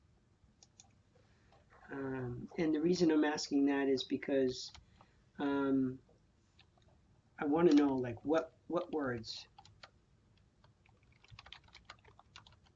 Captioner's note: typing, typing, typing